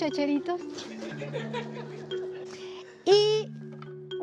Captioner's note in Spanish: Risas